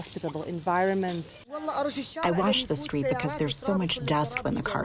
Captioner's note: through translator